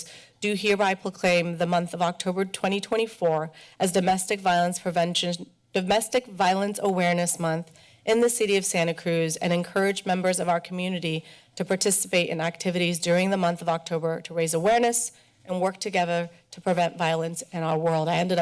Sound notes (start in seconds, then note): none